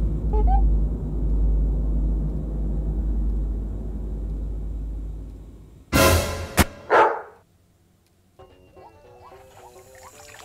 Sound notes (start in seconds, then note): 6.8 bark